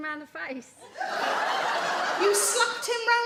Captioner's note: audience laugh